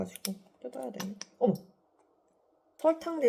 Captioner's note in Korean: 뿌직